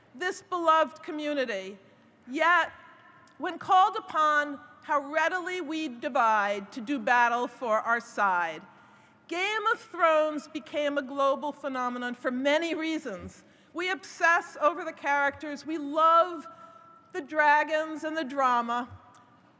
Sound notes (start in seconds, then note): none